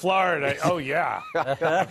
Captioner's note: laughter